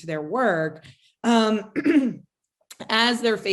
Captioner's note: clears throat